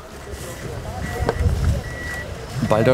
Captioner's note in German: Ferne Rufe, Lastwagenpiepsen